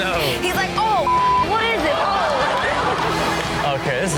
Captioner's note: beep; audience laughs